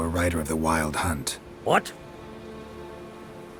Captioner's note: surprised